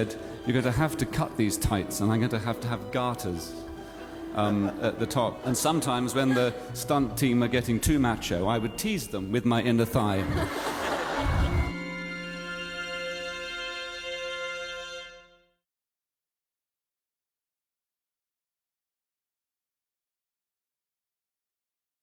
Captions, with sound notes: "You're gonna have to cut these tights and I'm gonna have to have garters, urn, at the top." And sometimes when the stunt team are getting too macho... ...I would tease them with my inner thigh. [AUDIENCE LAUGHS]